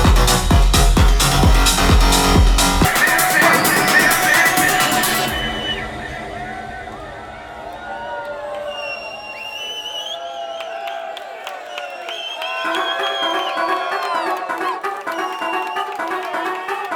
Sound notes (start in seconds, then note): 7.7 crowd cheering; 12.6 upbeat club music